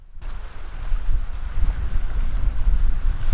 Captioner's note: wind howling